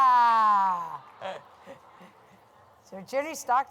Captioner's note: laughter